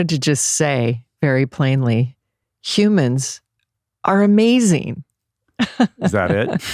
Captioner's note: laughs